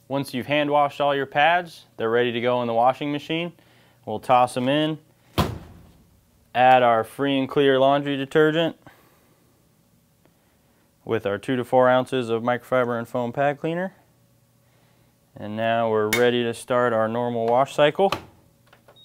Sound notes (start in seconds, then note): 5.3 door shuts